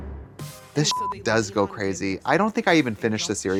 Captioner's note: beep